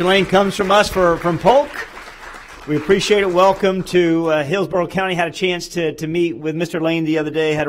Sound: applause

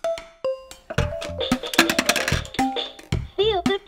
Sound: shape clacking; rhythmic percussion music

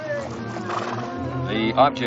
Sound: speaks in foreign language; horse snorts

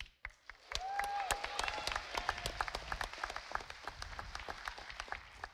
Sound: audience applauding

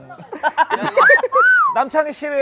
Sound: laughing

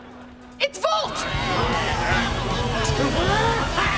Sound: grunting

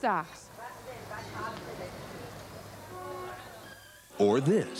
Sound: street noise, horn honks

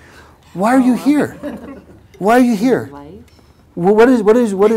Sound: laugh

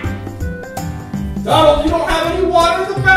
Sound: Donald laughs; voiceover

